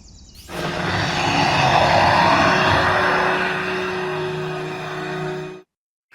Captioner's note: beast roar